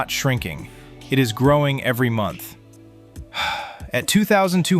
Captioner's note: sighs